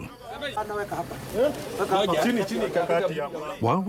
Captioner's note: man speaking a foreign language